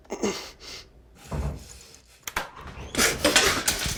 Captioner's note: Mark grunting; door clattering; Mark panting